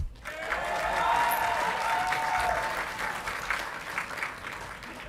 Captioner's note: audience clapping and cheering